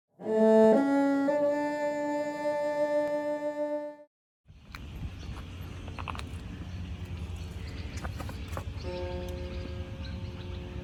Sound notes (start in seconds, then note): 0.2 three ascending cello notes, ending with a sightly clumsy vibrato; 4.5 various bird sounds can be heard